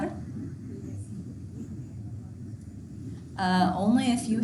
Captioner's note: student speaking faintly